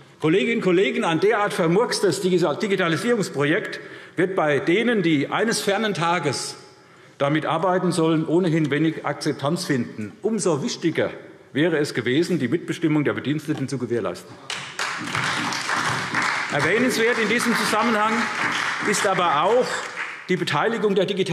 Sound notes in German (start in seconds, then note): 14.4 Beifall SPD und Freie Demokraten